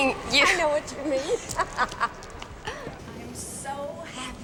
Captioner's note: laughs